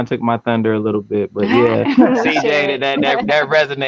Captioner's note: group laughing